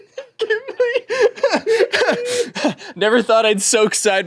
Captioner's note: laughs; everyone laughs